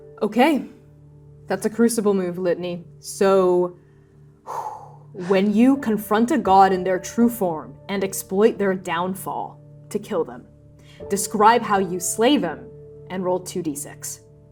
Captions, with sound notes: Okay. That's a Crucible Move, Litany. So... [exhaling] when you confront a god - [exhaling] in their true form and exploit their Downfall to kill them, describe how you slay them and roll 2d6.